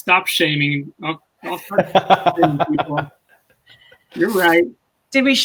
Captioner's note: laughs